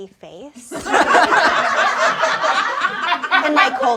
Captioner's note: everyone laughs